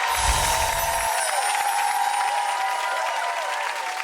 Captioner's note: chiming; audience cheering and applauding